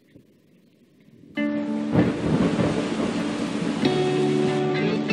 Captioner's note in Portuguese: Chuva forte